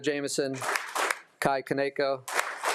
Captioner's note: attendees applauding